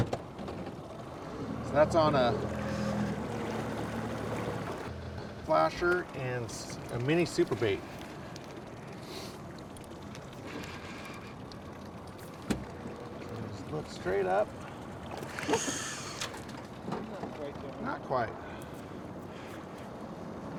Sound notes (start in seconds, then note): 7.2 boat engine running; 15.1 reel cranking